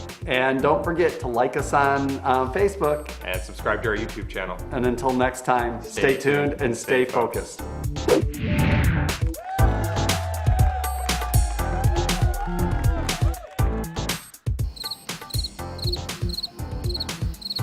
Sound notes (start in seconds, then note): 8.5 upbeat music; 9.3 people cheering; 14.6 crickets chirping